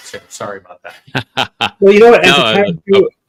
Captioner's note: laughs